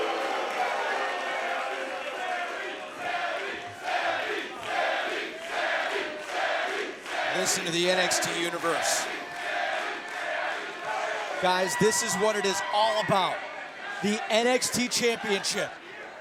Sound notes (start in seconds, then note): 1.9 chants "Sami"